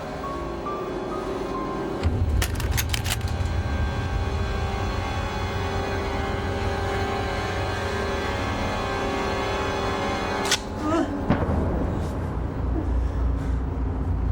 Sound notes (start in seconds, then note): 2.0 gun clicking; 10.4 trigger clicking